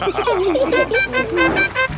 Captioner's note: all laughing; horn tooting